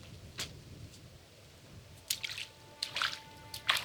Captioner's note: water splashing; tense music